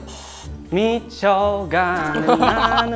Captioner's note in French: Détendu